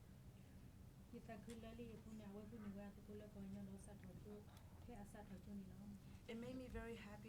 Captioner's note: speaking in foreign language